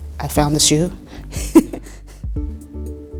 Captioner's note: laughs